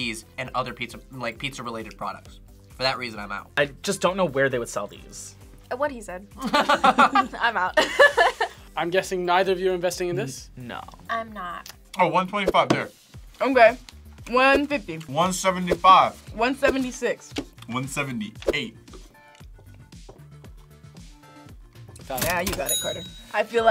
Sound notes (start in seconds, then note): 6.4 both laugh; 7.8 laughs